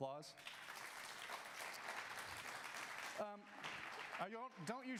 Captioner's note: audience applause